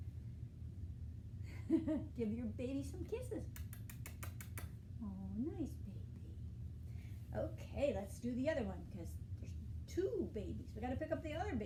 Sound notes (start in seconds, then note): 0.9 laughing; 3.5 kissing sounds